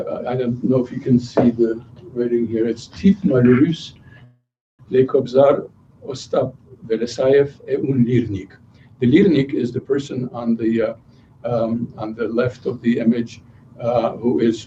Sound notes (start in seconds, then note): 3.2 non-english speech